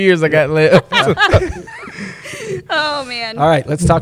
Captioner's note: laughs